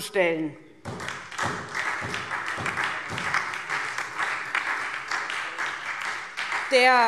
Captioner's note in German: Beifall SPD und Freie Demokraten